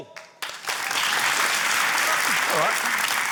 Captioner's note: cheering, applause